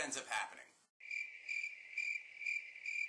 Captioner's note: crickets chirping